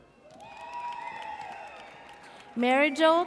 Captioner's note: audience cheers